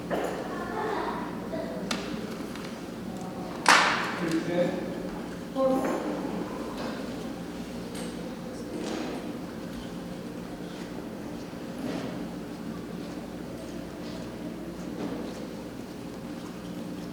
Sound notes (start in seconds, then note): 1.3 attendee chuckles; 5.3 attendees chattering